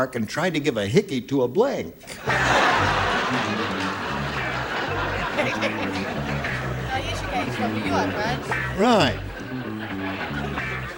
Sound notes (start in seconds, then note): 7.3 laughters